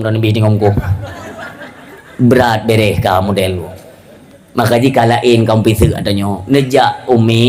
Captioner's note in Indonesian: tertawa